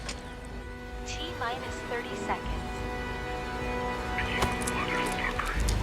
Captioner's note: automated Voice